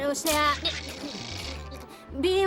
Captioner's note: static